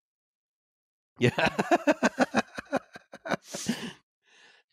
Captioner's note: laughs